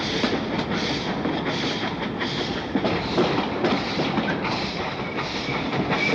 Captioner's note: train passes